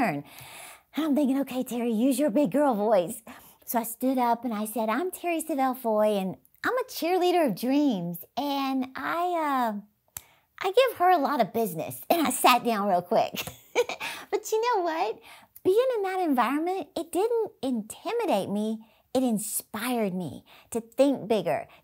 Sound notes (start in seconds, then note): 13.4 laughs